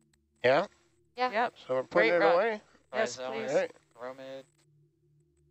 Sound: chatter and excitement

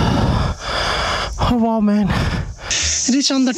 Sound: deep Breathing

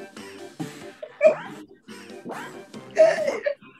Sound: laughs

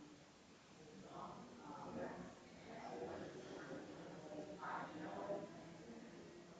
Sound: people chattering distantly continues

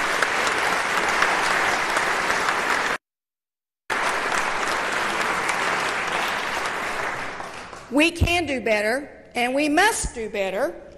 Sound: applause

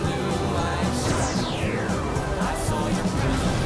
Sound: laser blasting; asteroid exploding

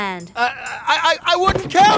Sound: stammers

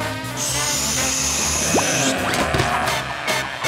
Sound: growling

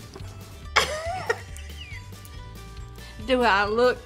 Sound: laughs

